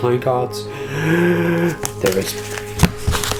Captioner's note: gasps